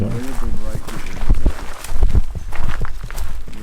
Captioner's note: murmuring